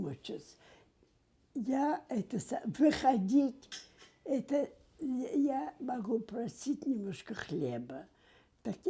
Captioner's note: mumbling